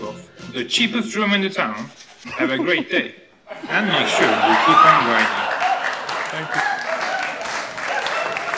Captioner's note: audience laughing and applauding